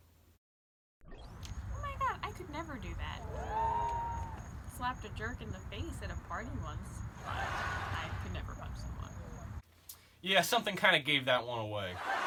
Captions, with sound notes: Oh my god! I could never do that! (audience cheers) Slapped a jerk in the face at a party once. (audience laughs) But I could never punch someone.